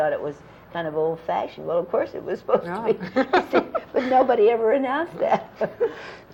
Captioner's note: laughter